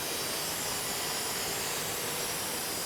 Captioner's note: machine noise